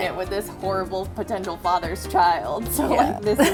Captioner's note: laughs